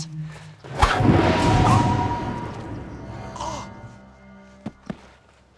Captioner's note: dramatic music; gasping